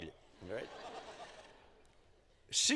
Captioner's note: laughing